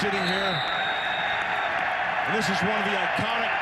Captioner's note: crowd cheering